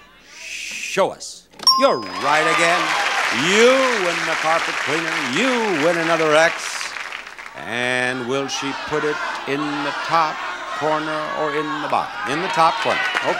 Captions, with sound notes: Show us. You're right again. (bell dings) You win the carpet cleaner, you win another X. And will she put it in the top corner (audience shouting) or in the bottom? In the top corner, okay.